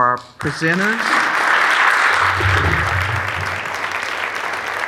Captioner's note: audience applauding